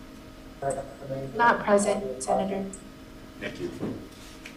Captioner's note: woman's Voice